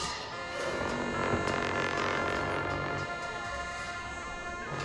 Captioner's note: cymbal crashes; horns blowing